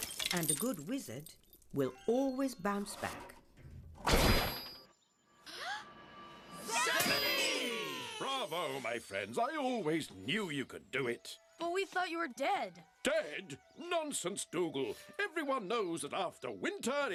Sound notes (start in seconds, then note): 4.8 all gasp